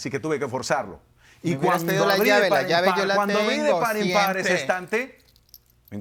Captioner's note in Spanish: Hablan al unísono